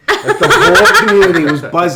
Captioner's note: laughing